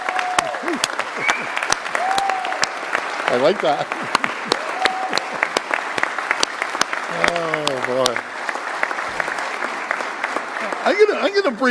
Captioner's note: applause